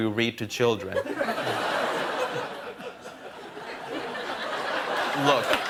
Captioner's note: laughter